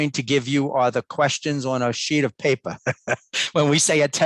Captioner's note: laughs